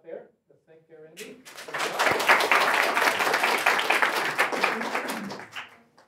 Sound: applause

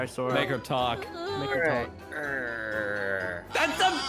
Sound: whinpers scaredy-catly; growls pathetically

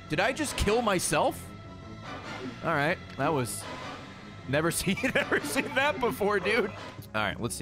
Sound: laughs

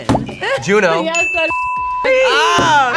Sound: beep; bell dinging

